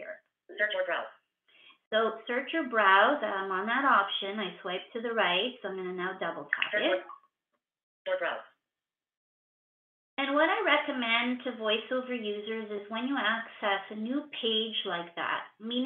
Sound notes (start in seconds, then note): 0.3 VoiceOver voice; 8.1 VoiceOver voice